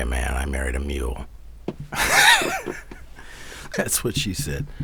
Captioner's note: laughs